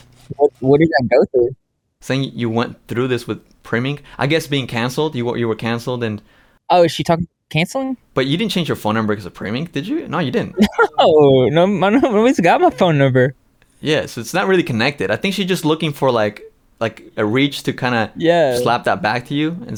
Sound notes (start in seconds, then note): 10.4 laughs